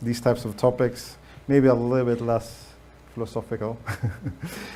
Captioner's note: laughs